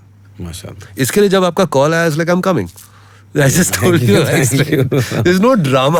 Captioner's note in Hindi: हंसी